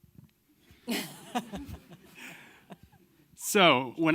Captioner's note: audience laughing